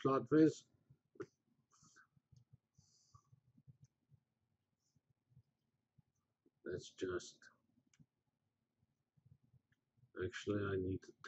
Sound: pause

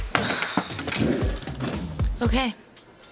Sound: Jane sighs

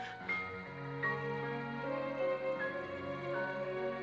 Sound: sobbing

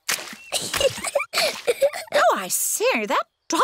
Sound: giggles

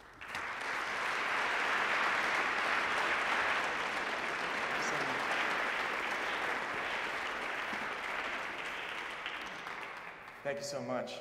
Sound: applause

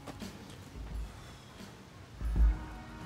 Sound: huffs

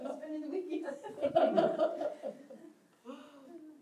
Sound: laughter

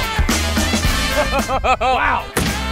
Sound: laughs

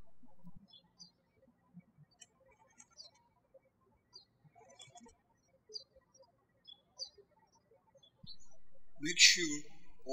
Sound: birds chirping

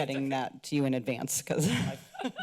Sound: laughs

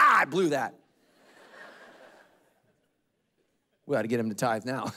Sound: congregation laughing

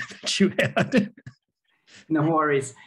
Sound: laughing

